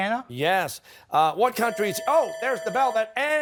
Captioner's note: bell rings